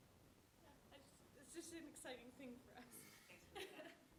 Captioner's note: laughs